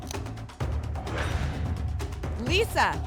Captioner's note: lock sound